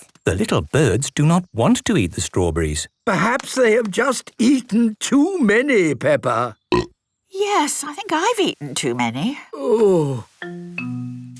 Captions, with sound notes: - The little birds do not want to eat the strawberries. - Perhaps they have just eaten too many, Peppa. - (burp) - Yes, I think eaten too many. - Oooh...